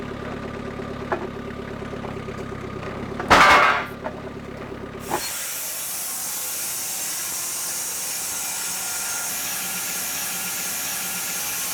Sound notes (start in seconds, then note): 7.0 saw blade whirring